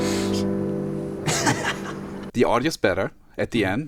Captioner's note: laughs